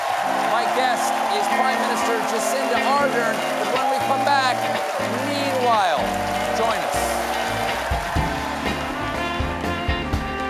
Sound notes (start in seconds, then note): 6.0 applause